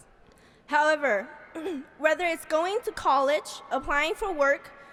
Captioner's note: clears throat